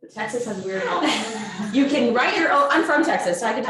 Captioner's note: audience laughs